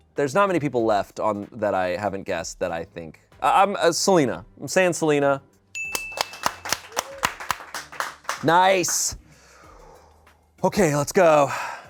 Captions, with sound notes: there's not many people left on that I haven't guessed that. I think I'm Selina. I'm saying Selina. (bell dings) (people applaud) Nice, okay, let's go.